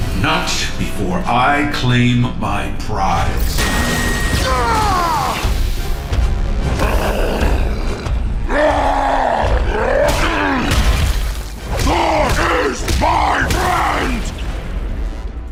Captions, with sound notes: Not before I claim my prize. [CRIES OUT] Thor is my friend!